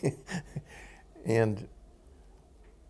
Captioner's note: laughter